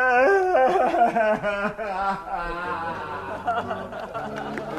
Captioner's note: laughter